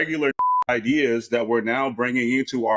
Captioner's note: beep